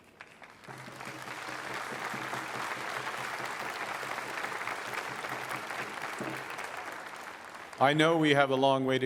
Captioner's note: applause